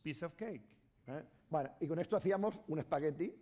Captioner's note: speaking spanish